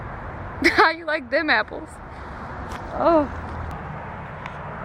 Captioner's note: laughing